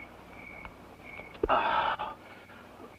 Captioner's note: sighs